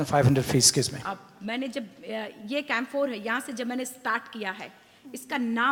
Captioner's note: speaks foreign language